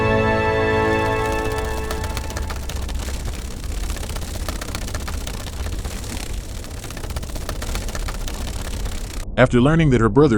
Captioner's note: sound of wings flapping